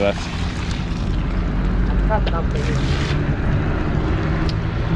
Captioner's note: wheels whirring